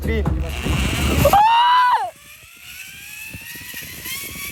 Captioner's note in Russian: крик